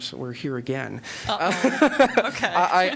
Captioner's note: laughter